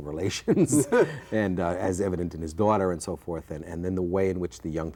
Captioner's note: laughs